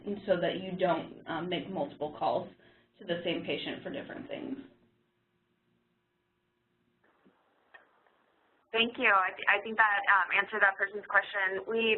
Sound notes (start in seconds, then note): 9.0 voiceover